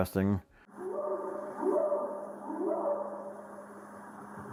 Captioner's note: animal howling